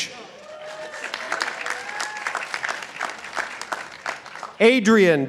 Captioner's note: participants applauding